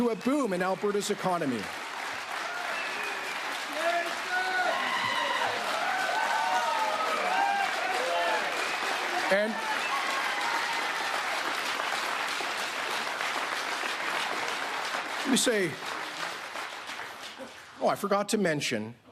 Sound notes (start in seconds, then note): 4.5 applause; 8.0 cheering